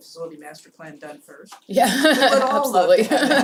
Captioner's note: laugh